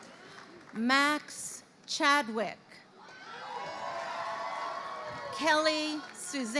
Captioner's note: crowd cheering